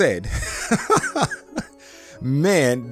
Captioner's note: laughing